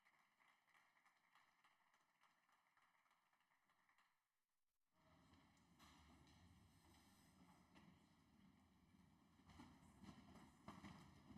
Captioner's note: applause